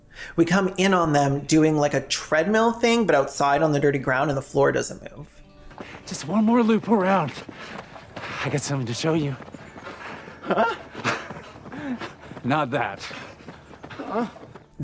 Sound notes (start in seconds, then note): 10.5 excited Gay Whimper; 13.4 sad Gay Whimper